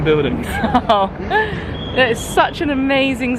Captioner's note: laughing